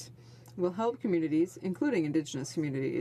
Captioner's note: speaking French